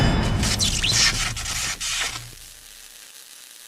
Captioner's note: electricity